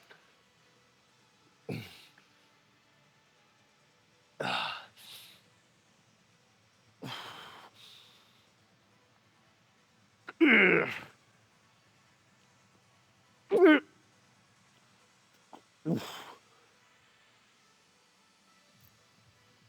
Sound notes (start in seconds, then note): 13.5 grunting; 15.8 grunting